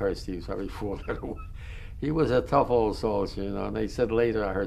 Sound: laughs

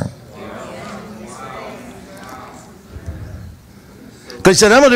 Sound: congregation reacts

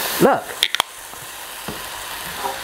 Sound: sizzling

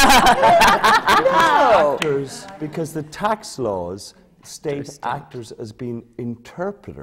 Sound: laughter

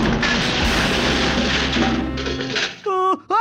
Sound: loud crash

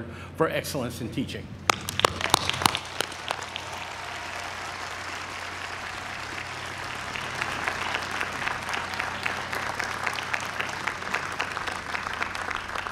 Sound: applause

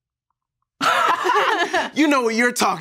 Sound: both laugh

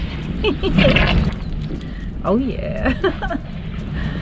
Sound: laughing

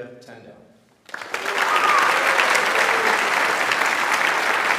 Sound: audience applauds

